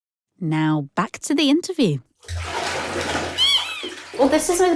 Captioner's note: sounds of water splashing